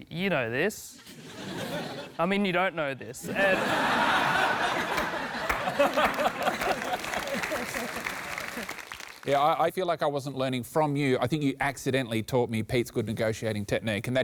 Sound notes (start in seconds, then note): 3.2 laughter